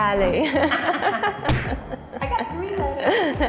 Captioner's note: both laughing